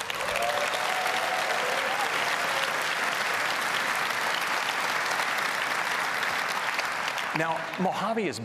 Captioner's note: applause